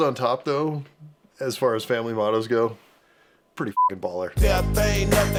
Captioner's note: beeping